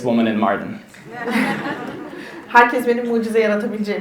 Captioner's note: attendees laugh; speaks in Turkish